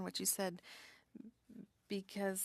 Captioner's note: speaking French